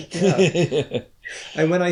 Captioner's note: laughter